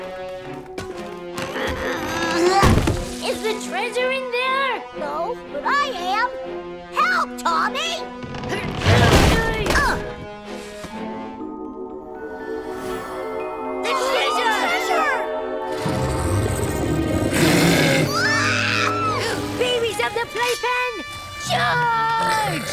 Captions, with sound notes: Is the treasure in there? No, I am. Help, Tommy! [grunting] - The treasure! - Treasure! [screaming] Babies of the playpen, charge!